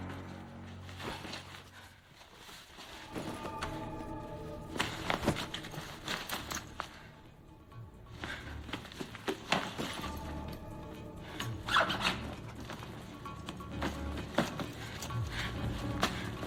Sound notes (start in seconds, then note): 1.0 fabric rustles; 5.5 tense music playing; 11.3 zipper whirs